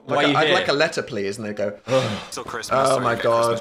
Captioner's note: both sigh